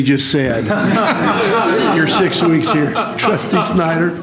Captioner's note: laughter